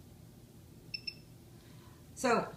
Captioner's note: device beeps